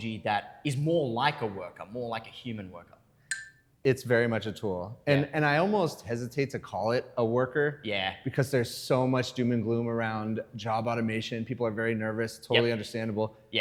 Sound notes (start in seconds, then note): none